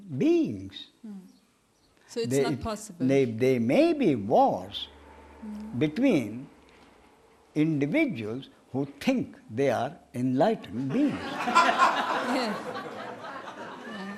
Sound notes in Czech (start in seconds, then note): 10.7 smích